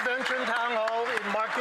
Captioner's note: cheering and Applause